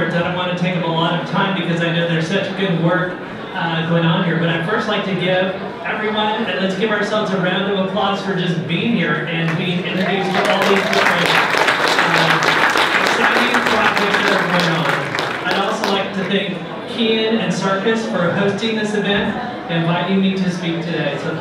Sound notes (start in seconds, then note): 9.9 applause; 13.7 audience clapping